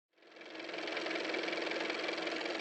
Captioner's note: car motor